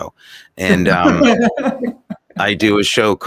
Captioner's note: everyone laughs